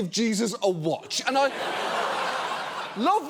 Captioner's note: audience laughs